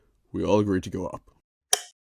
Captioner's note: light switch